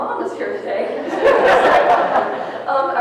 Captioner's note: people laughing